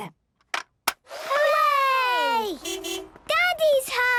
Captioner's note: distant beeping